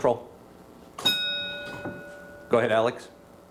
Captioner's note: bell dings